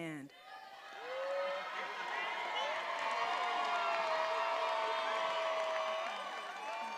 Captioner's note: attendees applauding and cheering